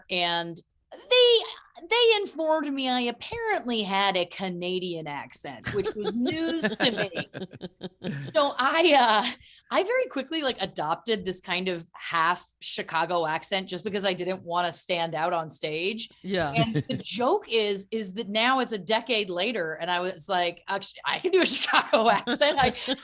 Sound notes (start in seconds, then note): 7.2 laughing